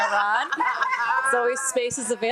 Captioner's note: attendees laughing